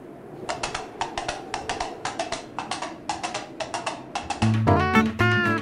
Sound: clip clop; funky tunes

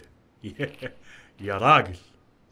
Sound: laughs

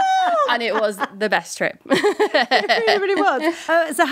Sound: laughs

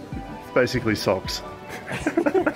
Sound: laughs

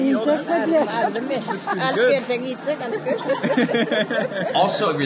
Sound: woman speaking foreign language; laughter

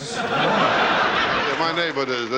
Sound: audience laughing

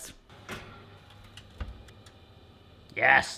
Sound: oven door close

